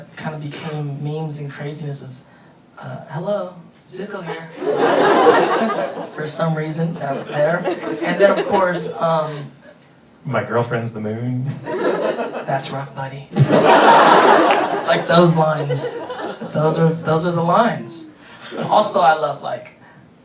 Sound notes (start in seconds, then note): 4.2 audience laughing; 13.3 audience laughing